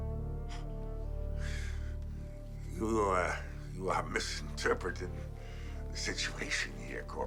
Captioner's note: suspenseful music continues; exhales